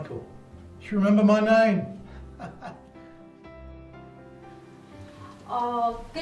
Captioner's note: laughs